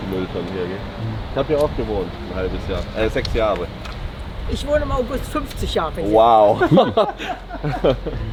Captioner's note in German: gelächter